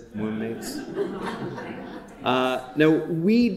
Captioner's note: audience chuckling